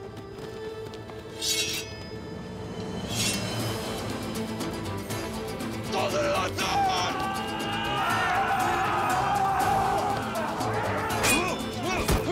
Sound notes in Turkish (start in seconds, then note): 1.4 Kılıç sesleri; 7.6 Bağırma sesleri; 10.7 Dövüş sesleri